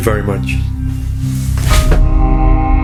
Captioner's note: rustle; thump; ominous music